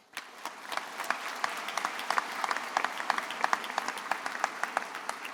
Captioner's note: graduates applauding